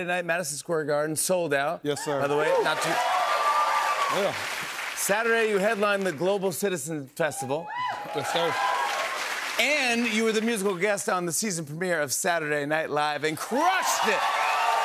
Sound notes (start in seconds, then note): 2.0 cheers and applause; 7.4 cheers and applause